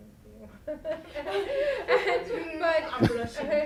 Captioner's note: laughs